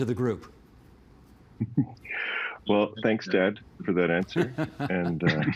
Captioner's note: laughter